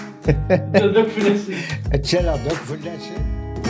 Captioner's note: laughs